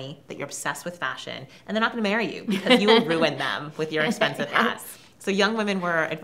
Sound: laughs

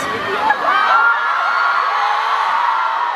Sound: fans yelling husband

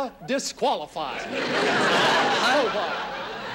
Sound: audience laughing

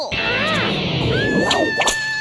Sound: growl; shrieking

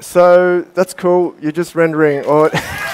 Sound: applause

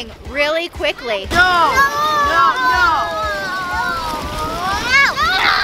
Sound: children protesting

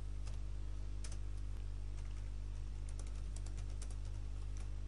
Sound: sound of typing

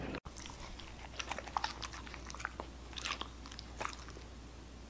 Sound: Noises of Shelby eating donut pieces - Husky ASMR

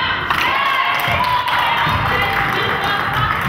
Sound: crowd claps

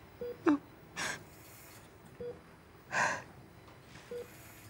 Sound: crying

